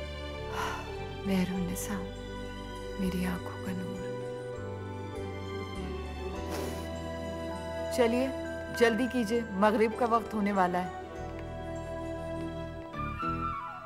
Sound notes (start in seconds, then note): 0.5 Sighs; 6.4 Sniffs